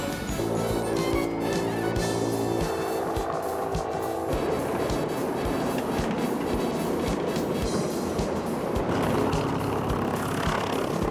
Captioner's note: sound of Blimp descending